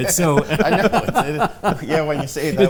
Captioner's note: laughter